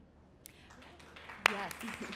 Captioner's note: applauding